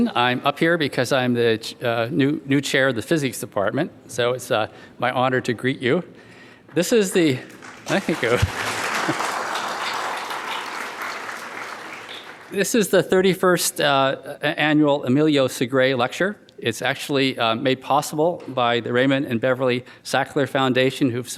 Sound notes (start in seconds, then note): 7.1 audience clapping